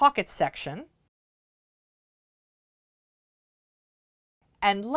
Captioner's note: no Sound Present